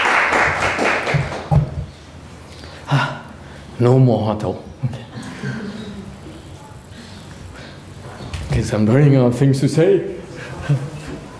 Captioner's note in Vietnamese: applause; sigh of relief